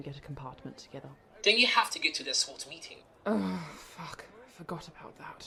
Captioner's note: Regulus groans